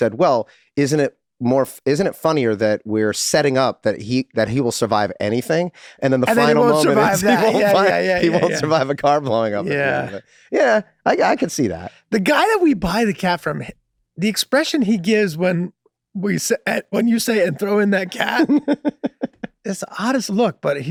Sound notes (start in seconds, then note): 8.2 Rob laughing amusingly; 17.3 Rob laughing amusingly